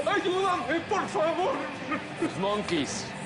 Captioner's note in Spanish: Sollozos